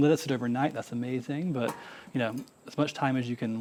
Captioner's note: lid clanking